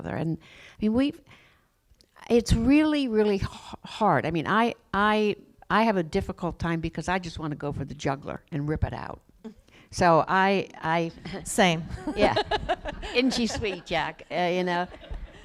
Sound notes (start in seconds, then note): 12.0 laughs